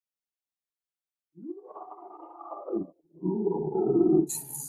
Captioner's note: Decimator roaring